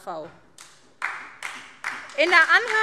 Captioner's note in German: Beifall SPD